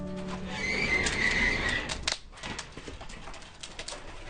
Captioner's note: kiln door squeaking